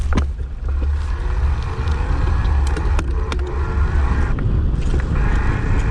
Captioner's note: bike gears rattling